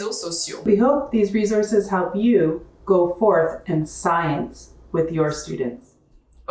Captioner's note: in English